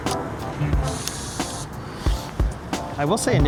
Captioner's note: camera whirring